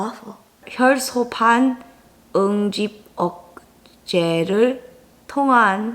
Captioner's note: speaking in foreign language